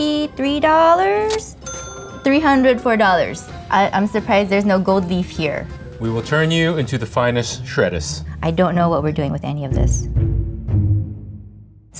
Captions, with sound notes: [money cha-chings] $304, I'm surprised there's no gold leaf here. - We will turn you into the finest shrettuce. - I don't know what we're doing with any of this. [gentle music]